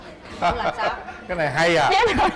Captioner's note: laughs